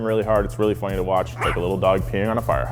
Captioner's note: dog barks